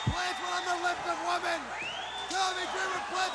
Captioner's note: crowd cheering